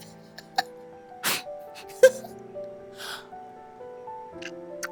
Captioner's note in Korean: 웃음; 콧방귀